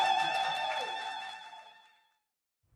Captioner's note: audience rejoices